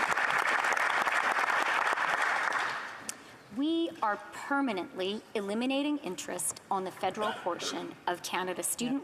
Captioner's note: applause